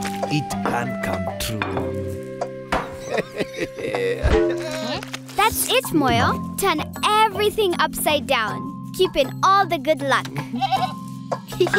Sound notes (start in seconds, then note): 2.9 laughing; 10.4 Moyo bleating